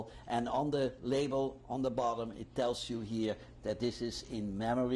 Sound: none

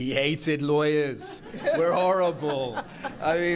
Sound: laughter

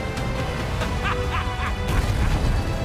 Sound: laughing

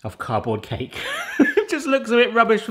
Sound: breathy giggle

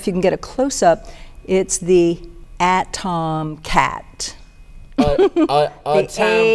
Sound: chuckles

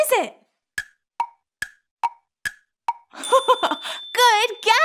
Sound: clock ticking; giggles

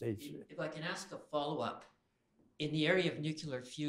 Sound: voiceover

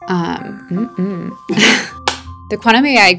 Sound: chuckle

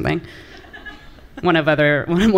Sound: laughter from the audience

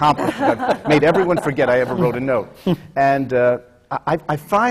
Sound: laughter

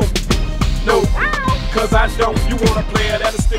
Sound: cat meows

